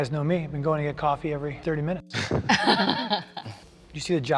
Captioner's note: laughing